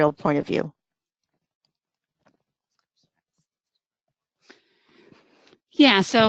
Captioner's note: silence